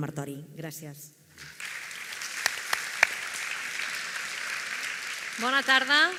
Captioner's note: applause